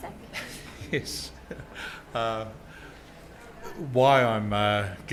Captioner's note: chuckling